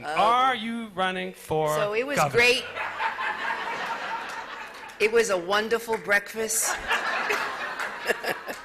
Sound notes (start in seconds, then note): 2.1 laughter